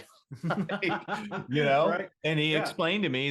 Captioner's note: laughs